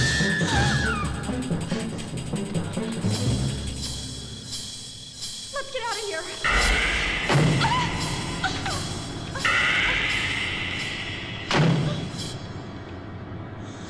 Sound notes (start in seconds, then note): 0.0 girls screaming; 1.9 frenzied music; 6.4 loud banging; 8.8 electrical whirring; 11.4 door slamming